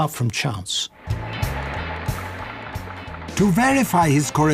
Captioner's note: machine noise